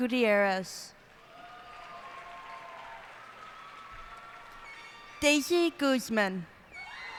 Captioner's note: cheers and applause